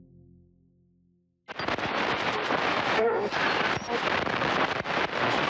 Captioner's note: radio static